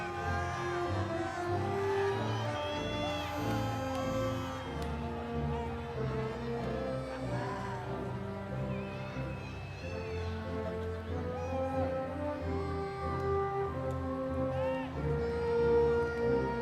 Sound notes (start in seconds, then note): 2.5 audience members exclaiming; 12.4 triumphant music continues